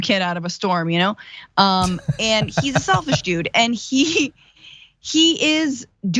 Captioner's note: laugh